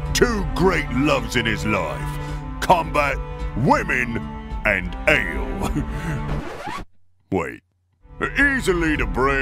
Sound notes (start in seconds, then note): 5.6 chuckle; 6.2 record scratch